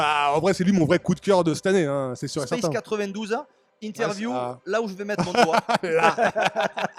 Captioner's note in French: rires